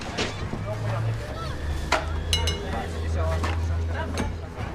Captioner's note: traffic rumbling; officers murmuring